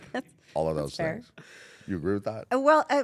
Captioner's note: laugh